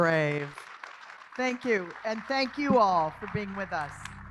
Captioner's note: applause